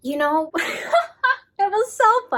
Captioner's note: laughs